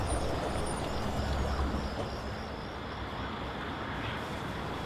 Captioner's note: car driving up and brakes squeaking; crickets chirping